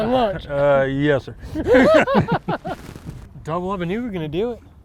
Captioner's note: both chuckling